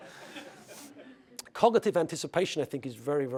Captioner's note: laugh